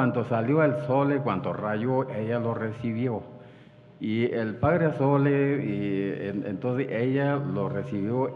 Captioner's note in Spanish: habla en wixárika